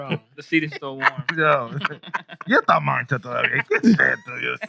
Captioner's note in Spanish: Riendo; Hablando en idioma extranjero